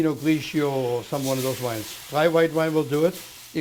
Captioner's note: sizzling